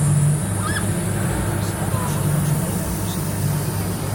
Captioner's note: rider screaming; air hissing